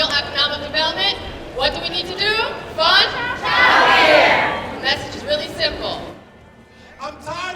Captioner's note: chanting